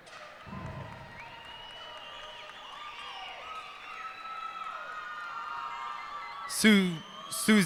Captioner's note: cheers and applause